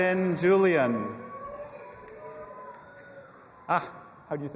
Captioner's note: audience applauding and cheering